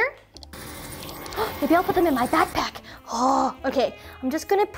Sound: gasps

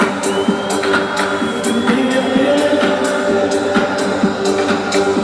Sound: crowd whistling

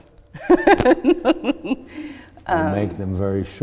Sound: laughing

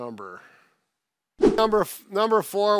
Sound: air whooshes

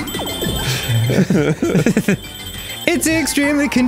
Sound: both laughing; singing

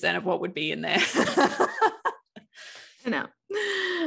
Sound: both laughing

